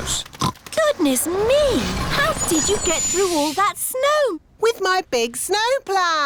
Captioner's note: oinks